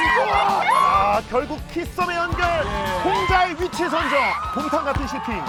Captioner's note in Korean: 환호 소리